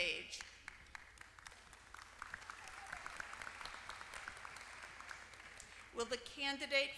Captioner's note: applause